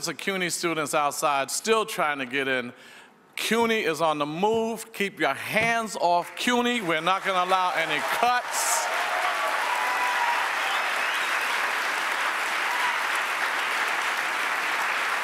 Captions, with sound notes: of CUNY students outside still trying to get in. CUNY is on the move. Keep you hands off CUNY. We're not gonna allow any cuts. (audience applauds)